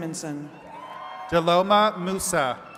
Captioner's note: attendees cheering and clapping